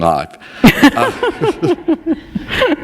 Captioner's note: laughter